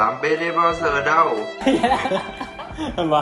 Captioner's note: laugh